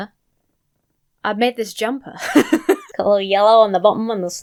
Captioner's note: laughs